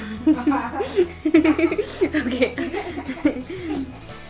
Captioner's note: laughter